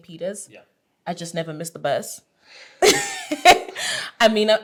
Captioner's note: laughing